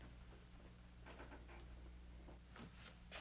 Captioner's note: quiet creak